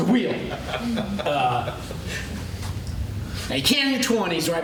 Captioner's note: laughter